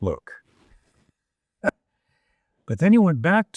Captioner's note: chuckling